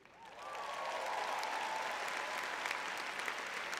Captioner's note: cheering